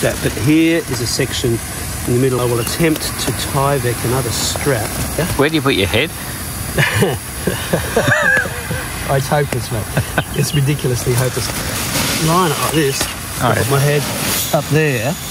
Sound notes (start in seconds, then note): 6.6 laughs